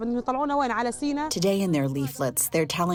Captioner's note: through translator